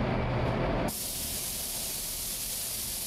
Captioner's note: hissing